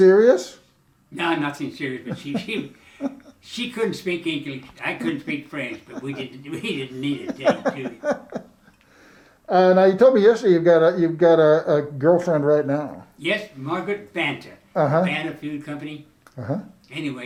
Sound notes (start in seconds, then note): 7.7 laughing